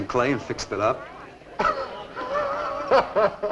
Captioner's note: laughs